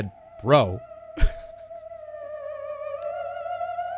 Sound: chuckles

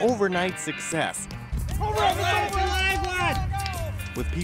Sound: athletes shouting

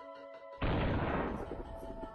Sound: Insert Dio hand-boom noise here

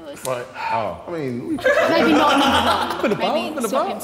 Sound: Sidemen laughing

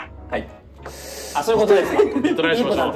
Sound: laughs

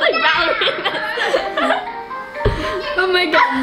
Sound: laughing

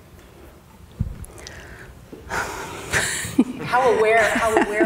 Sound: laughs

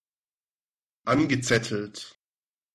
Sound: fast Pronunciation

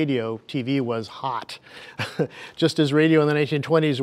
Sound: laughing

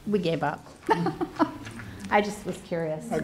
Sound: laughter

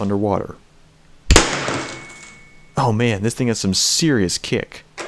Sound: thump

